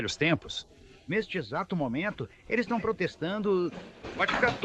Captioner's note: protesting